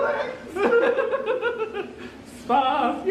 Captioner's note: laughs